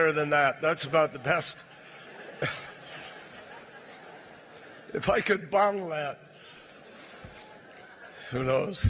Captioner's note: laughter